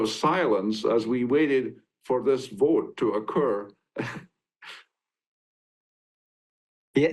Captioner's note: chuckles